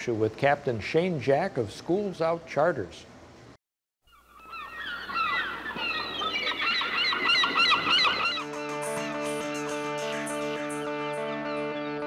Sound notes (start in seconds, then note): 4.0 birds chirping; 8.3 upbeat music